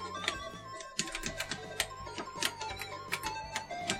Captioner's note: clicking